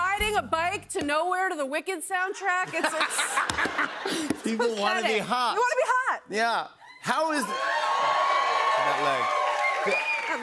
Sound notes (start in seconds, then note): 2.6 laughter; 7.0 cheers and applause